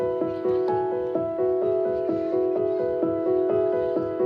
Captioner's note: children chatter faintly